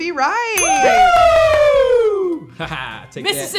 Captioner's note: bell dinging; group cheering